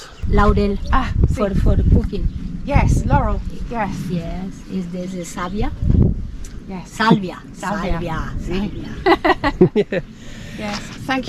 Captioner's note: laughs